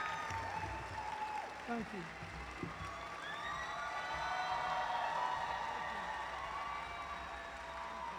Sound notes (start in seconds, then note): 2.6 cheering